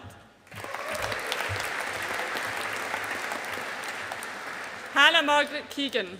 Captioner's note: audience applauding